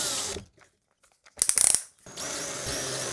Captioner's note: drill whirring; drill clutch clicking; drill whirring